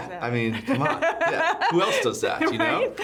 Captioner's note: laughing